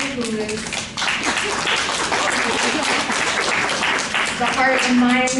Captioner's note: applause